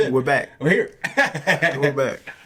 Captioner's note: laughs